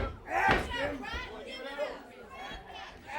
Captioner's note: crowd chatter